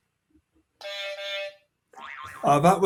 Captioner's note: horn honking; boing